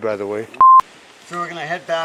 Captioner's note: camera beeping